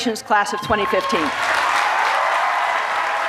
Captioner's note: cheers and applause